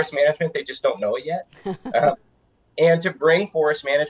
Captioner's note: laughing